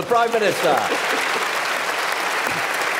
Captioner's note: applause